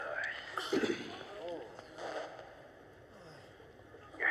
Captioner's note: zipper unzips